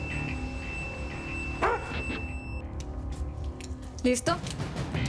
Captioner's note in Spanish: Ladridos